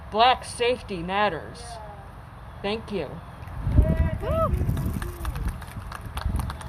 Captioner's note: applause